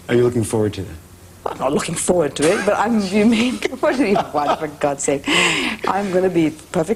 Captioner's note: laughter